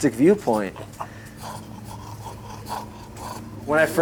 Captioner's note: dog grunting